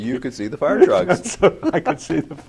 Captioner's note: laughs